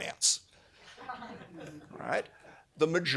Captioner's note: laughter